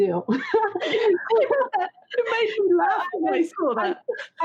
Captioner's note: laughs